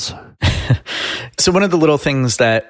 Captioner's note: laughing